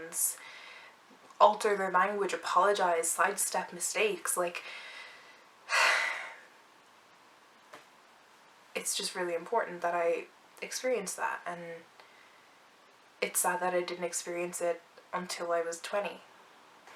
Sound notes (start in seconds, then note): 5.7 sigh